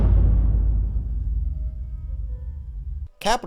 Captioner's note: epic Boom